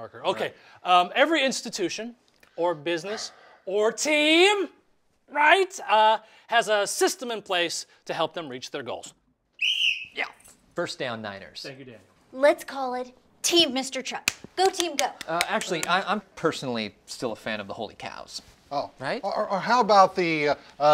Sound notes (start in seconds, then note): 9.5 whistle blowing; 14.2 hands clapping